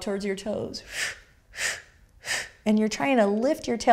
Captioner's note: breathing